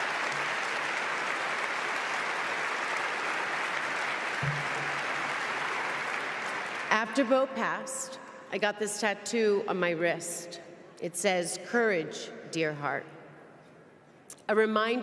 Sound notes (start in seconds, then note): 4.5 applause